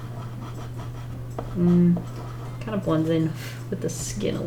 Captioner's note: none